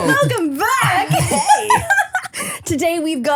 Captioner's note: laughing